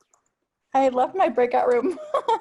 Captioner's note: laughs